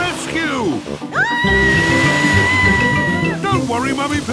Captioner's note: screaming